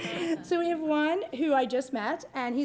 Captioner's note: laughter